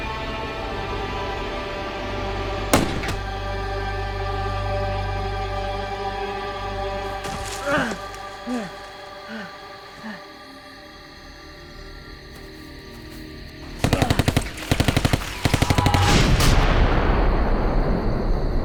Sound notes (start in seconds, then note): 2.7 gunshot; 7.1 panting; 13.8 gunshots